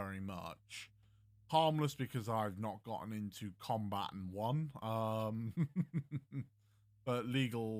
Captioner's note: chuckle